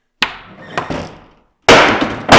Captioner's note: door thuds; board thuds